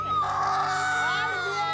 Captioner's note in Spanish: Gritos fuertes